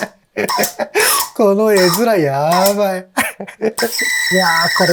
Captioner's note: laughs